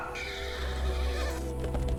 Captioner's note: neighing